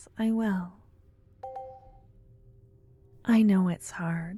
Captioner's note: positive sounding chime in the distance